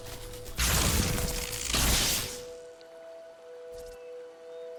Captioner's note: electricity jolting; somber orchestral music